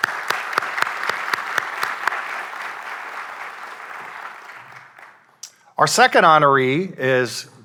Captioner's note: applause